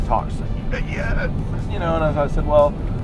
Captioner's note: quiet grunting